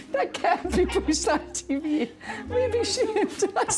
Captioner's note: laughing